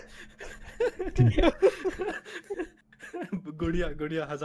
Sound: all laugh

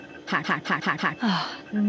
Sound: exasperated sigh

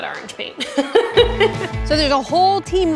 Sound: laughter

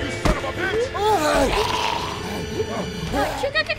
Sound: zombie gurgling

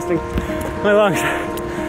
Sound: heavy breathing

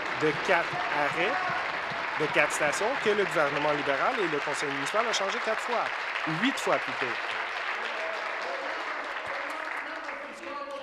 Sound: applause

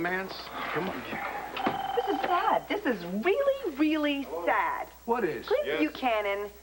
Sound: telephone rings

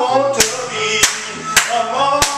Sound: clap

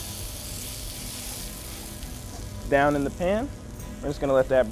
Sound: sizzling

